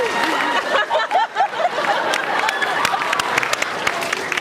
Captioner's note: laughs, applauds